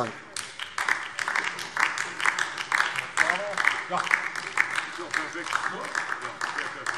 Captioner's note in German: Beifall DIE LINKE